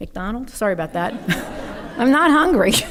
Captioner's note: audience laughing